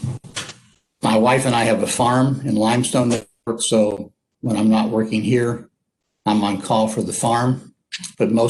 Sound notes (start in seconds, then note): 3.1 audio skips